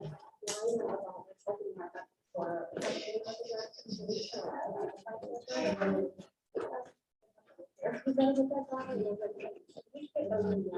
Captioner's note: all chattering